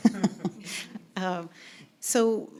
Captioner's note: laughing